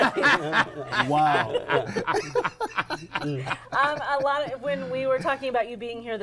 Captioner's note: laughter